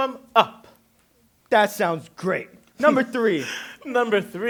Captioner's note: laughs